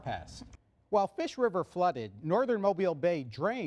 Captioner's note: none